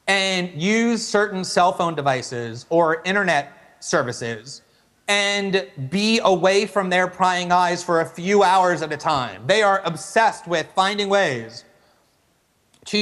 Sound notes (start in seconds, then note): none